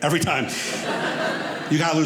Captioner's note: audience laughing